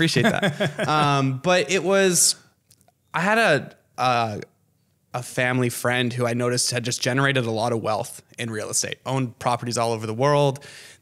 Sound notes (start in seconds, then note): 0.0 laughing